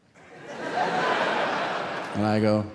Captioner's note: audience laughing